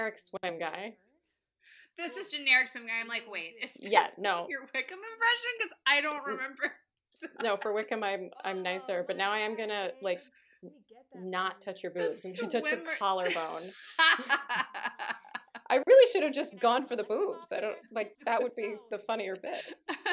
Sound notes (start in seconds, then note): 7.2 laughter